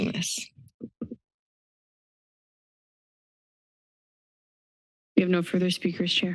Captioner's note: silence